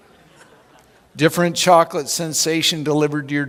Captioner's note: chuckling